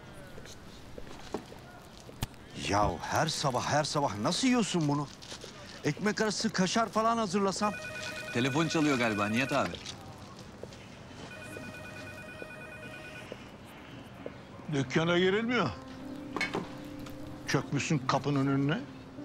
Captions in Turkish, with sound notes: (Sokak ortam sesi) Yahu her sabah, her sabah nasıl yiyorsun bunu? Ekmek arası kaşar falan hazırlasam? (Telefon zili sesi) Telefon çalıyor galiba Nihat abi. (Sokak ortam sesi) (Telefon zili sesi) Dükkâna girilmiyor... ...çökmüşsün kapının önüne.